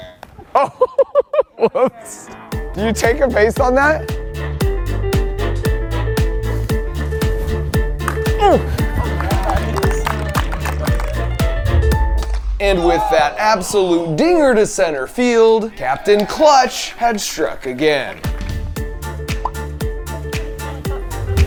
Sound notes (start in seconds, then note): 0.3 laughs; 4.8 upbeat music; 9.6 people clapping; 18.7 upbeat music